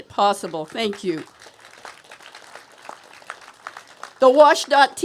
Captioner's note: applause